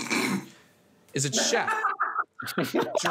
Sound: snorting; laughing

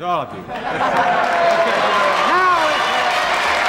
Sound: applause

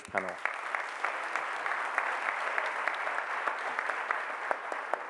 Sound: audience applauding

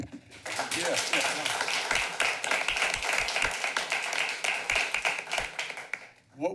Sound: applause

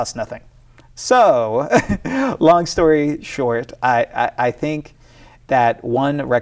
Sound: laughs

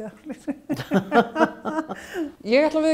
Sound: laugh

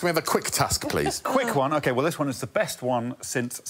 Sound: laughter

